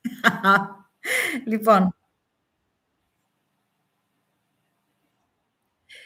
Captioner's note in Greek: γέλια